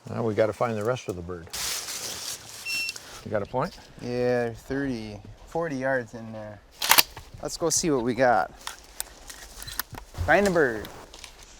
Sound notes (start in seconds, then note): 2.7 GPS beeping; 6.7 gun clacking